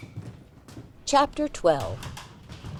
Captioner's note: audio book continues